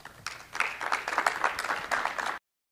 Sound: applause

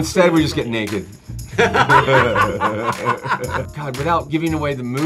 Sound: group laughing

